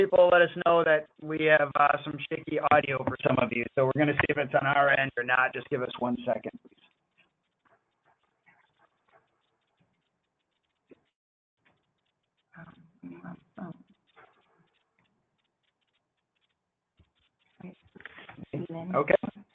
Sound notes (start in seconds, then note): 13.0 pause